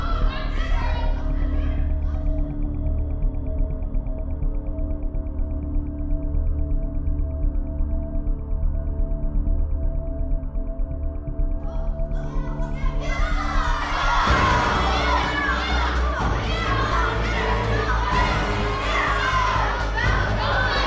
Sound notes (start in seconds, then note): 0.0 children continue shouting; 4.6 slow music continues; 12.7 children chattering; 15.6 children shouting; 15.6 slow dramatic music